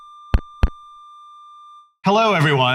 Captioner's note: logo clicks; microphone feedback